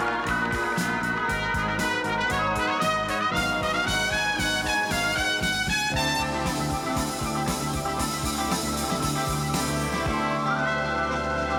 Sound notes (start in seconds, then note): 7.3 cheering